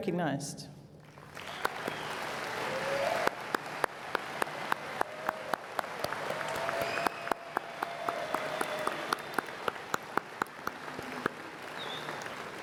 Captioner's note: cheers and Applause